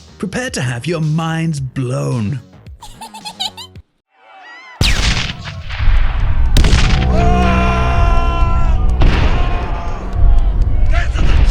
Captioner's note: explosions